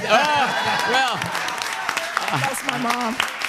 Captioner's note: crowd applaud